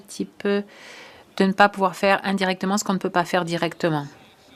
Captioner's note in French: voix de l'interprète